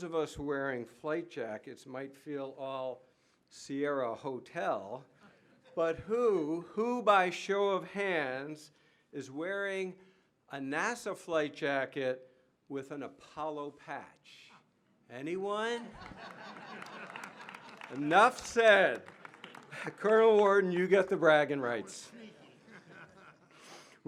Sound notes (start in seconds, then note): 15.8 laughter